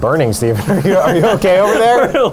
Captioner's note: laughs